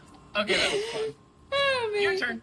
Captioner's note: laughs